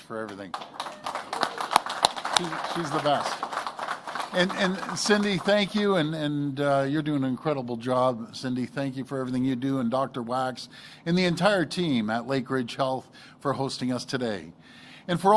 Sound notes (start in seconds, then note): 6.3 applause